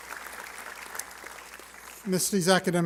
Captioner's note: applause